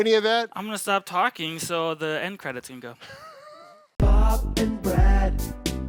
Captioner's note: laughing